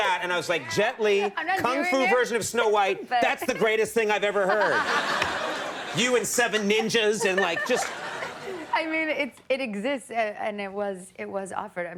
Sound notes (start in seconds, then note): 5.0 audience laughing